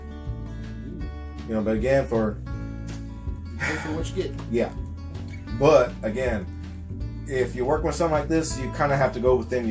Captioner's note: sigh